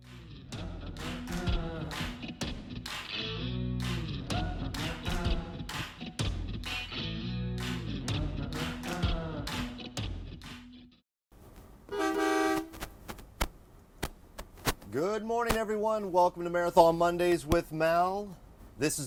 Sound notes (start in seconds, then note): 0.3 upbeat music; 11.9 honk